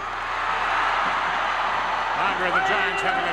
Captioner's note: crowd cheers